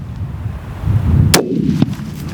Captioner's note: gun shot